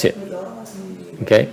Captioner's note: background chattering